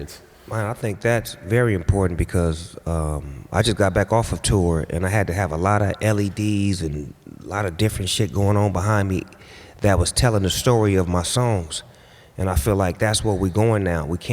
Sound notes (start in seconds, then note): none